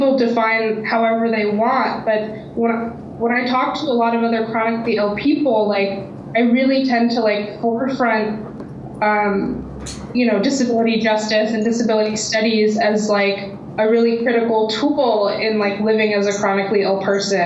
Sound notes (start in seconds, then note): none